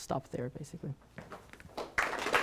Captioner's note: applause